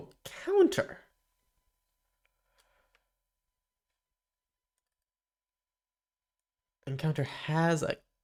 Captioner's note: silence